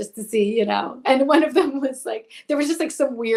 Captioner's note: laughs